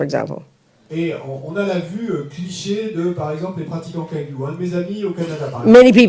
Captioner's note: French